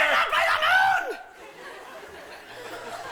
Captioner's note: laughter